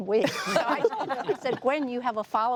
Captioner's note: laughing